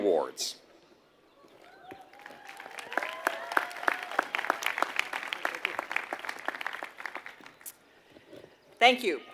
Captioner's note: applause